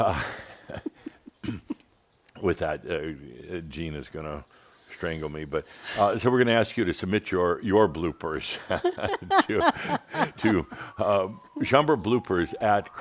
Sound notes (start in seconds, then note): 0.0 they chuckle; 8.5 they laugh